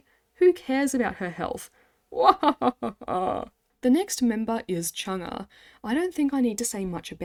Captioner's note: evil Mnet laugh